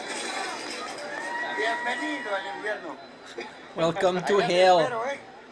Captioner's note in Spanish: Aplausos